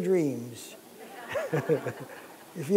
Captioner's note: laughter